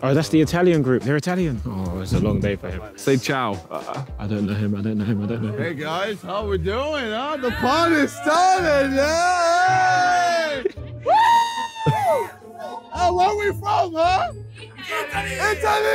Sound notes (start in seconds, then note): 11.0 crowd cheering; 11.0 screaming